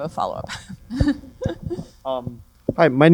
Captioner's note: laughter